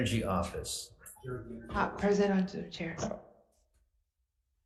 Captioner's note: speaks faintly